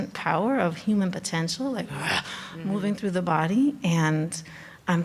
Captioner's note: grunts